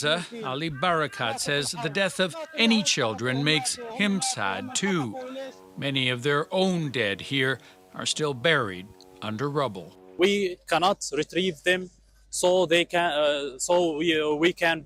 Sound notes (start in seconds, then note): 5.6 foreign language